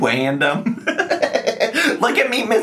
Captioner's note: laughing